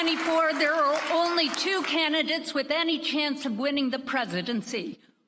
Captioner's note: applause